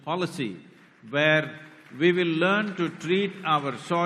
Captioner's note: applause